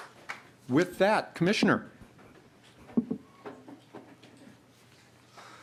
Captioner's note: applause